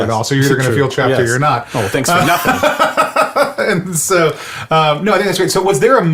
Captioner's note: laughs